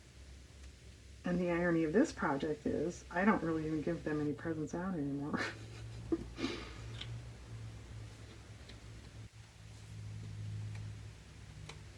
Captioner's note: laughs